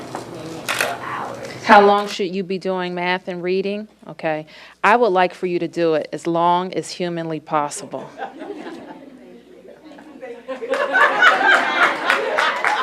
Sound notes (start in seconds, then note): 8.0 laughter